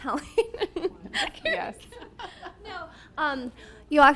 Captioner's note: she laughs